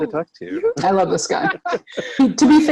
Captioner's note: laughs